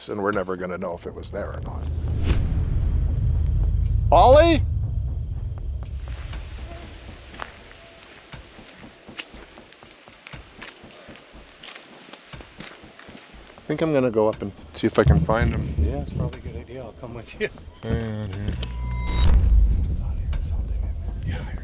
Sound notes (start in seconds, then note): 18.4 chuckles; 19.1 foreboding music